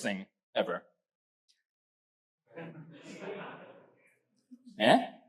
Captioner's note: audience laughs